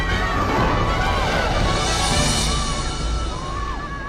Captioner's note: coaster whooshing